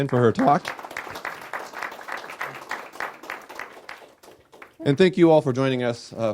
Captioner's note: audience applauding